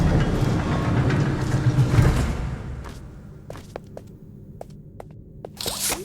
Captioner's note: ominous music; thunder; zipper